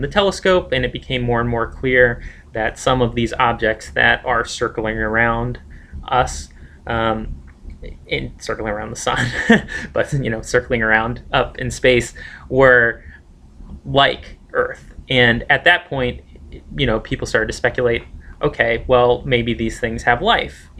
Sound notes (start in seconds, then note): 9.1 laughs